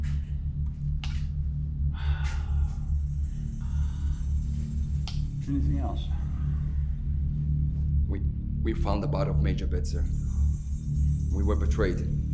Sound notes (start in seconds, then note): 2.0 sighing